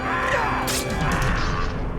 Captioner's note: man moaning in pain